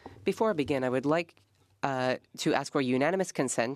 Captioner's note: speaking French